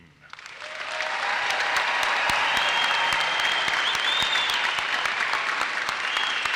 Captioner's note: audience cheers and applauses